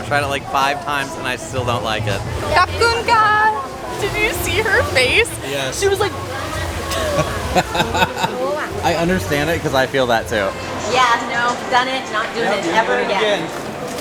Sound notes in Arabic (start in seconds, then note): 7.1 ضحك